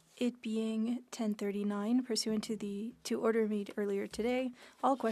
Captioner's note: speaking French